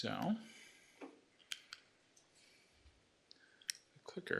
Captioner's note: clicks